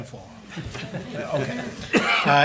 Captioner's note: attendees chuckle